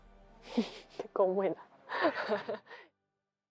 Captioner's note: laugh